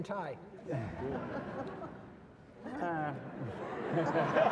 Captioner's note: audience laughs